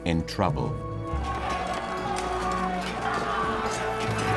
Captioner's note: men shouting